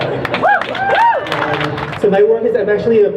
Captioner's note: crowd cheers